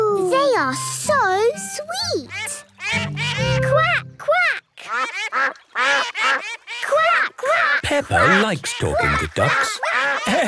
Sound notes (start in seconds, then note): 2.6 all laugh; 4.8 quacking